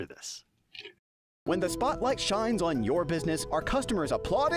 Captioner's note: voiceover